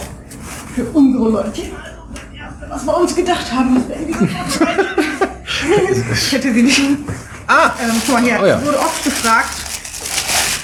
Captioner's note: murmurs